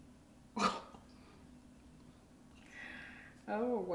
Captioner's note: laughs